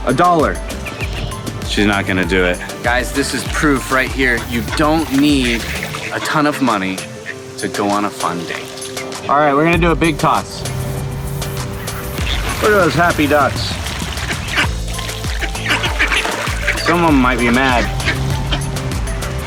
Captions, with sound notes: - A dollar? She's not gonna do it. Guys, this is proof right here, you don't need a ton of money to go on a fun date. Alright, we're gonna do a big toss. Look at those happy ducks. (quacking) Some of 'em might be mad.